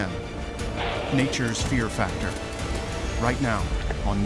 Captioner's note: nearby snarl